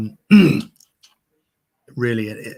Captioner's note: clears throat